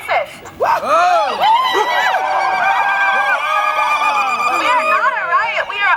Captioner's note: cheering